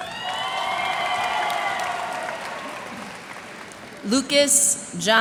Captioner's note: cheers and applause